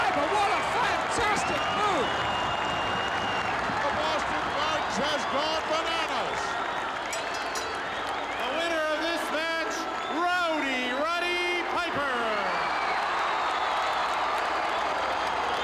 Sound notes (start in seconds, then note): 7.0 bell rings; 12.6 audience cheering